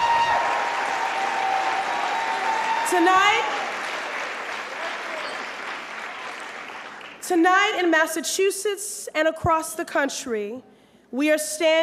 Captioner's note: applause